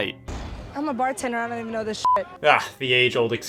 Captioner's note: beep